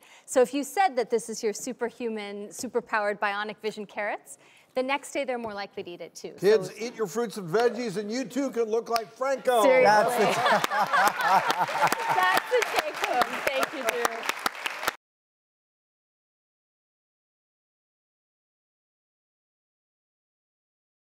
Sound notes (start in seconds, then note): 9.9 laughing and clapping; 14.1 clapping